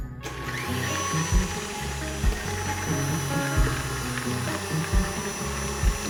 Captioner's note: mixer whirring